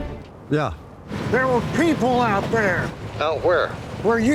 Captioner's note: engine revving